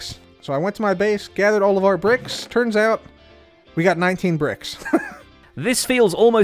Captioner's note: laughs